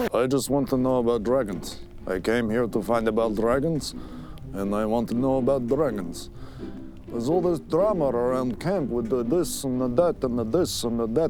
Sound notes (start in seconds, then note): none